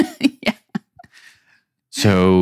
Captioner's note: laughing